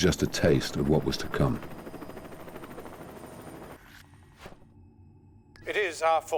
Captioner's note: helicopter blades whirring